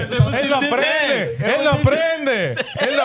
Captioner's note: speaking Spanish; speaking In Foreign Language